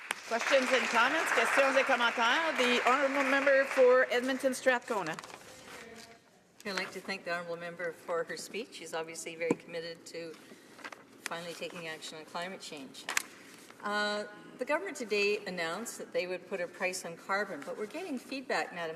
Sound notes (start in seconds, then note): 3.1 some Applause; 5.9 speaking French